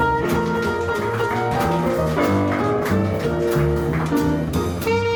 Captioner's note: audience applauds